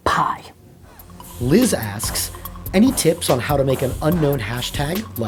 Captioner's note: voiceover